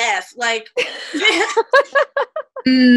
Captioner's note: laughter